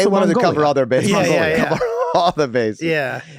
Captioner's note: Glenn laughing amusingly